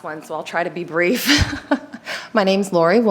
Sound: laughs

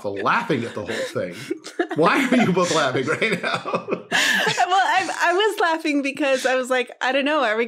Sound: laughing

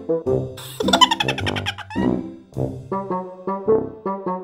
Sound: child laughing; quirky music

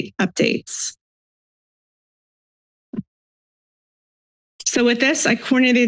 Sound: silence

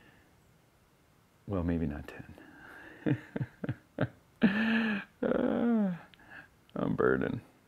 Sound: chuckles

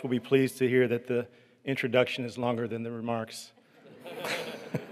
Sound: laughter

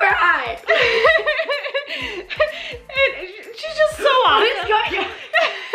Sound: laughs

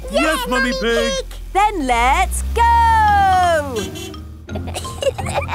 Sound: honking; giggling

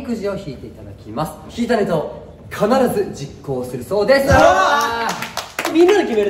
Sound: applause

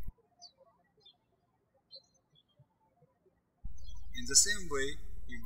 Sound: birds chirping

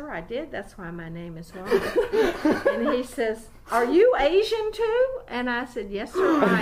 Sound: laughing loudly

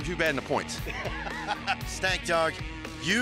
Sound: laughs

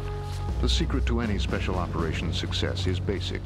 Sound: voiceover

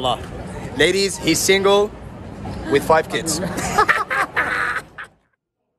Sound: laughter

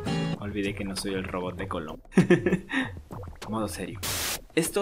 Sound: laugh

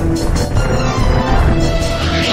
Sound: clomp; whoosh

